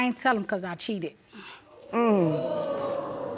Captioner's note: audience gasps